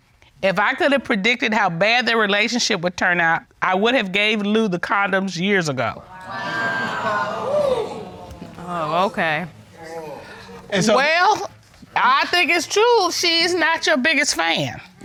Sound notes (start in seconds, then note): 6.0 audience exclaiming